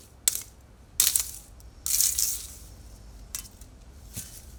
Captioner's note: zip ties busting